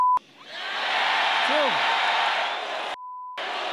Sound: cheering and applause

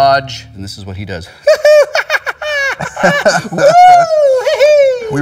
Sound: laughing cheerily

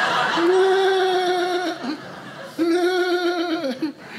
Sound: audience laughing; laughing

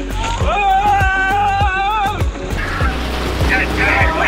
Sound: yelling

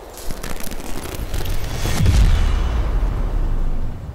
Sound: electricity sparking

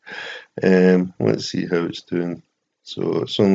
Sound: laughs

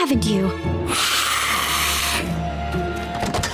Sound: hissing

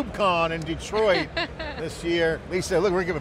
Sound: laughing

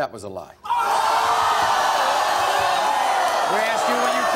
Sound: audience yells

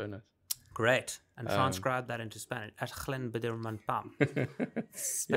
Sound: Spanish accent

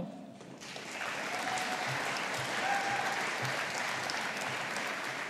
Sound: audience applauding

